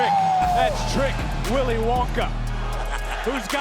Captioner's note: Booker laughs